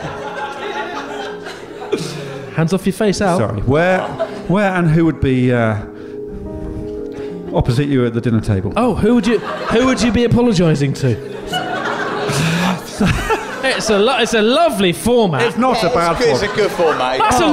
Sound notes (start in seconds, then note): 11.3 giggling